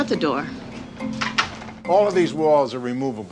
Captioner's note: door clicking shut